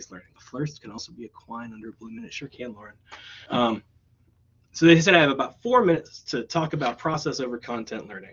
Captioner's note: reading quietly